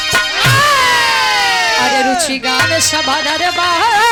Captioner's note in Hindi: चीखने की आवाज़